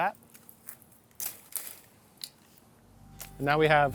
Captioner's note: trimmers snip